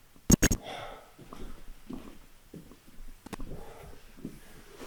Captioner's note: static crackling; Jacob panting